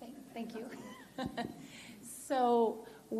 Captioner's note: chuckles